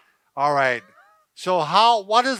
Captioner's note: chuckles